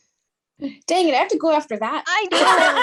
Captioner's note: laughter